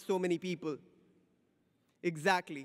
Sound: silence

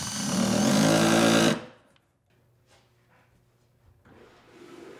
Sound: drill installing screws in wood

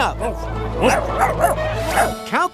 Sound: barking

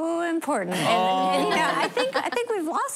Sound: laughter

